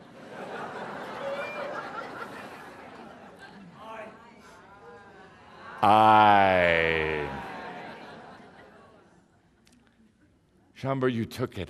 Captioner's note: laughter, then audience responds, “I”